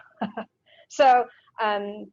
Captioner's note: laughs